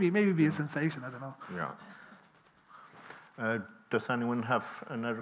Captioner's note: people chuckling